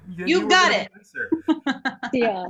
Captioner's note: laughs